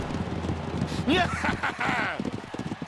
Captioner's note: triumphant chuckles